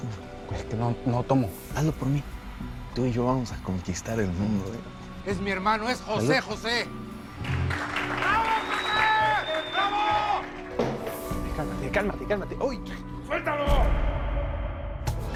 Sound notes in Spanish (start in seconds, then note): 7.7 Ovaciones